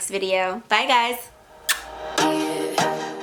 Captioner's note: blows kiss